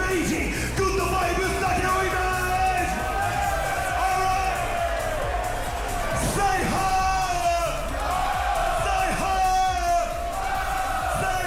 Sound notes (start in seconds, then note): 7.8 crowd; 10.4 crowd